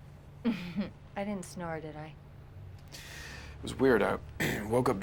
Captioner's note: laughs